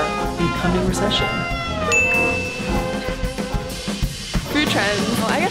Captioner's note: slow big band music; bell chimes